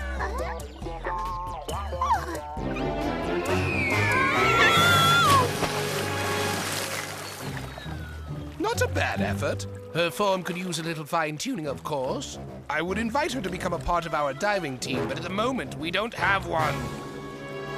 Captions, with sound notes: [Weather Lady screaming] Not a bad effort. Her form could use a little fine-tuning, of course. I would invite her to become a part of our diving team, but at the moment, we don't have one.